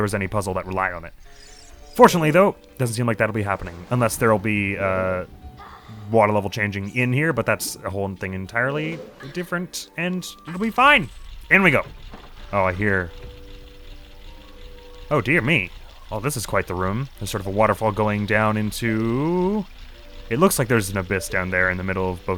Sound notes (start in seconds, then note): 11.9 mechanical sounds